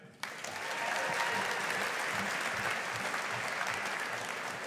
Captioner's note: audience applauding